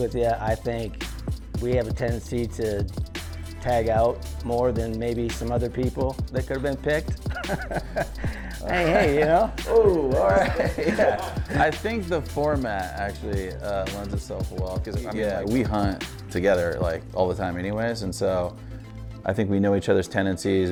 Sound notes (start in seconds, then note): 7.2 laughing